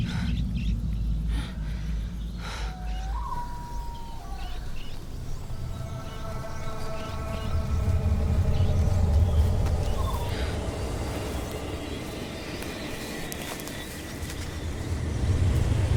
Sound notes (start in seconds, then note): 2.4 owl calling